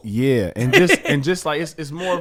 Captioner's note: laughs